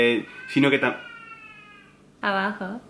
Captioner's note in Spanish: bebé llora